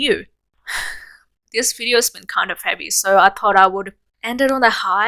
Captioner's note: sigh